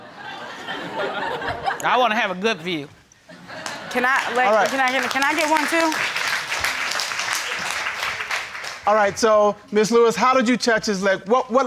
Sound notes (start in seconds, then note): 0.0 audience laughing; 3.5 audience applauding